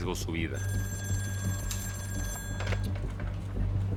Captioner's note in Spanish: Suena el teléfono